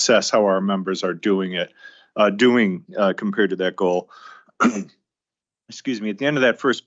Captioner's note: clears throat